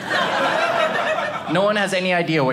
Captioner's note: audience laughing